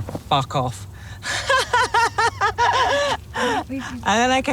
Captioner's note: laughs